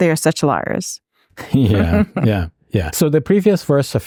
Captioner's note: laughing